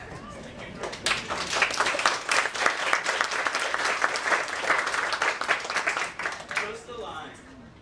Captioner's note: applause